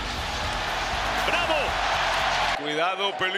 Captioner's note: applause